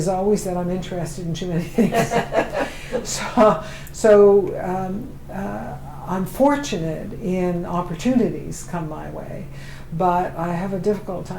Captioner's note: laughter